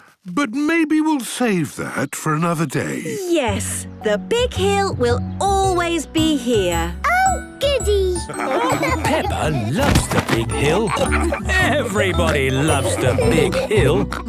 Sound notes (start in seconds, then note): 8.2 laughing